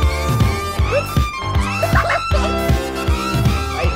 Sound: laughing

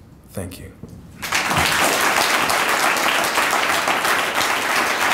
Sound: audience applauding

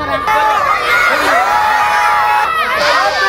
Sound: crowd cheering

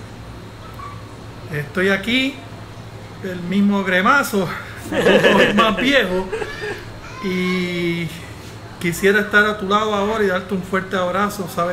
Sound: laughs

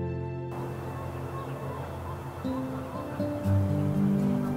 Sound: birds chirping

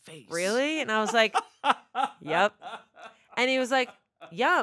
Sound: laughing

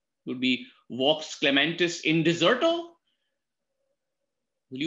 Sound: speaks in foreign language

